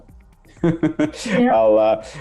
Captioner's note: chuckles